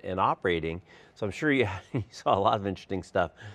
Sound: laugh

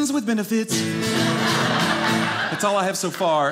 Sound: audience laughing

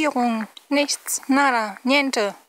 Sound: Spanish

